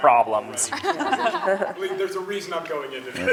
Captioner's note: laughter